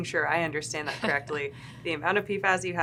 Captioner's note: chuckling